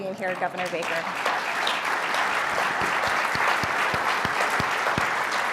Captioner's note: applause